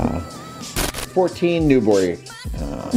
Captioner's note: static sound